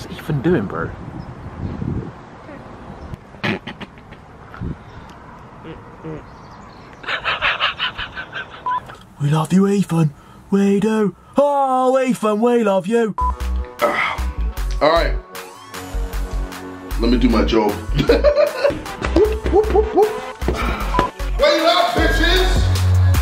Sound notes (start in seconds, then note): 5.8 farts